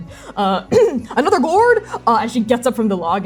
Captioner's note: nervous throat clearing